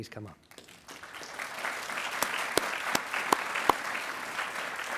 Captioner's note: attendees applauding